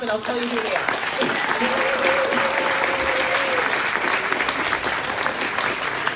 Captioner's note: crowd claps